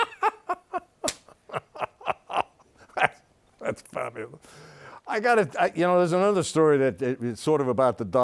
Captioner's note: laughs